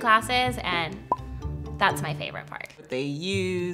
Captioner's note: pop